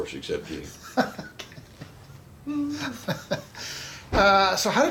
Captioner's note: chuckles